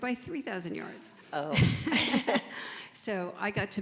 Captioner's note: laugh